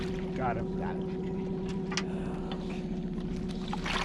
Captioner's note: fish splashing